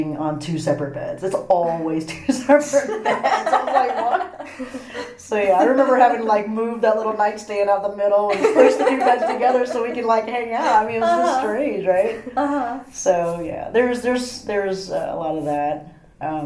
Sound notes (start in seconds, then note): 2.6 all laugh